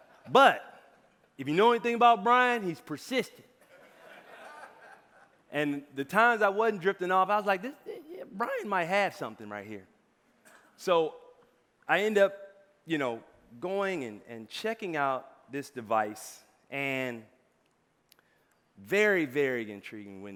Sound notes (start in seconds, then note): 0.0 audience laughing; 3.7 audience laughing